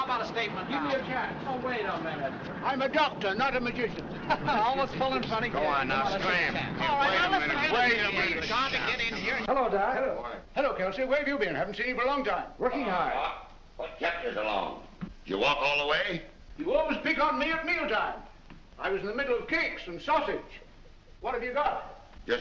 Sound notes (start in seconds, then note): 0.0 reporters clamoring for a statement; 4.6 reporters complaining loudly